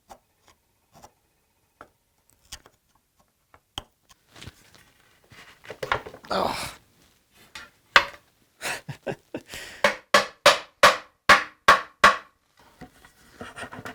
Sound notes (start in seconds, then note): 6.2 grunts with effort; 8.6 chuckles; 9.5 careful hammering